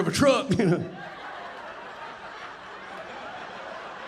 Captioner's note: audience laughing